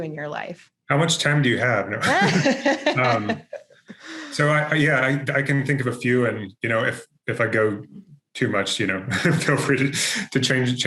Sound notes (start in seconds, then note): 1.9 both laugh